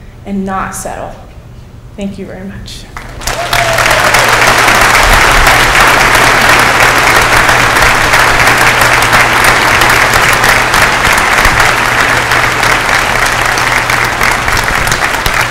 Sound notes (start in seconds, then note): 3.3 applause